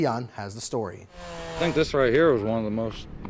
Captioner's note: chainsaw revving